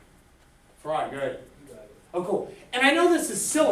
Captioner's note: voiceover